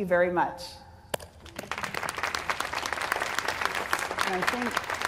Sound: applause

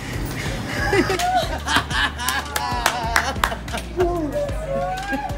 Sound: camerawoman laughing

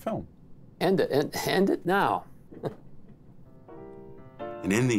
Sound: chuckles

